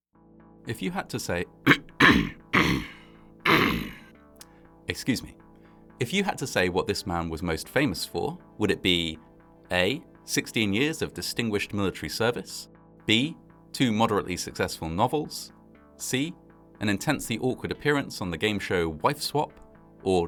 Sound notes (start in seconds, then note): 1.6 guttural coughing